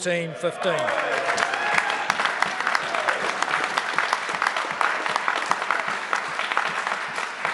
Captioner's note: members applaud